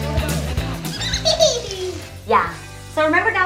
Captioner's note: laughs